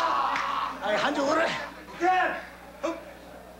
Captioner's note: speaking Japanese